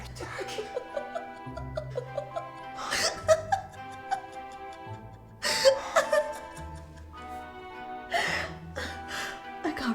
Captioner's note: laughing